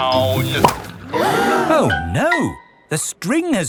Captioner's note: all gasp